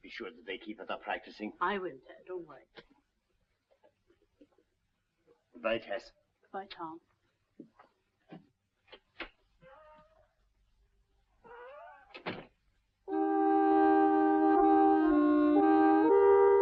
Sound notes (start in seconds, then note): 11.5 door creaking; 13.1 mournful music